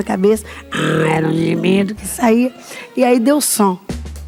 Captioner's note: raspy voice